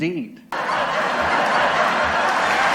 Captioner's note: canned applause